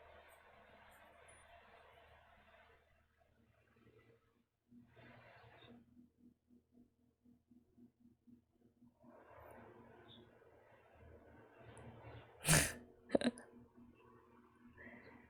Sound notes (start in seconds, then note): 13.1 laughs